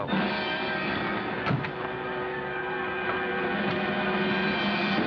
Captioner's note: car doors thud